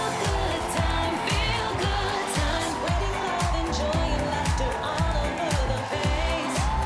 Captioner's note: cheers and applause